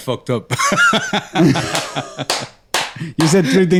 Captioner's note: laughter